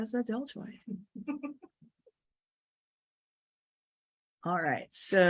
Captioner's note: chuckling